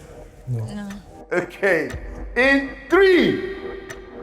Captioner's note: laughs